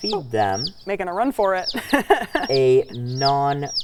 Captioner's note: laughing